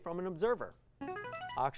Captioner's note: buzzer